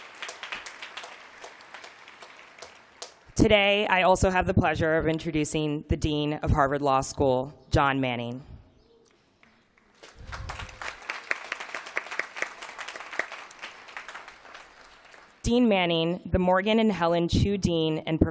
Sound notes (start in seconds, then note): 9.8 applause